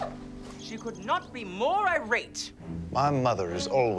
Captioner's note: birds chirping